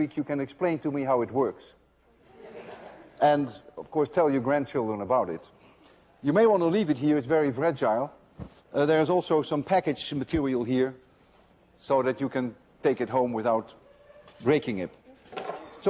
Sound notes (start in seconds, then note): 2.2 laughter